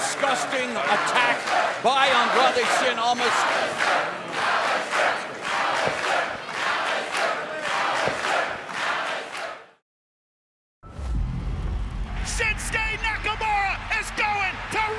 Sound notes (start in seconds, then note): 3.9 crowd cheering